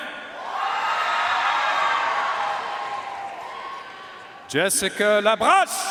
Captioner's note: audience cheering and applauding